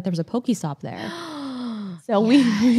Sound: gasps

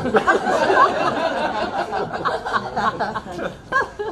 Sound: crowd laughs

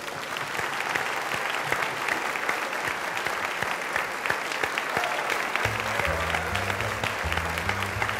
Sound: applause

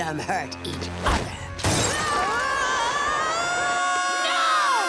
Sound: screaming

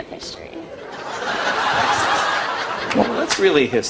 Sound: laughing

